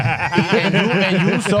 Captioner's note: laughing